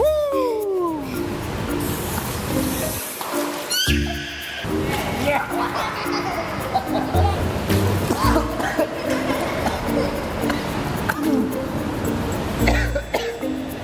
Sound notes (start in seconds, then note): 0.1 cheering; 5.4 laughing; 8.0 choking on water